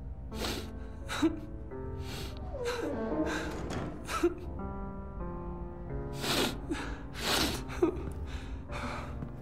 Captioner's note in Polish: Płacze